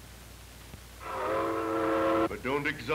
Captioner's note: train whistle blowing